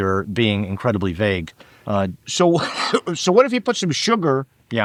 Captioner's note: laughing